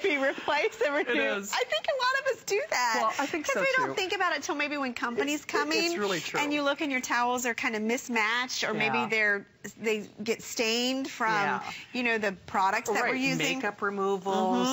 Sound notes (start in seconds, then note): 0.1 laughter; 2.6 laughter